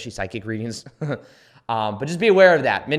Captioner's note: laughs